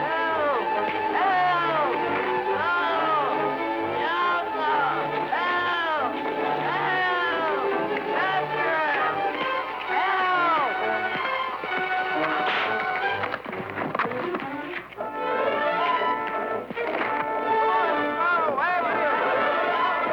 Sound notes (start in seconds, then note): 12.2 whip cracking; 15.3 suspenseful music